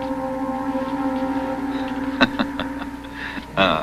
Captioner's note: laughing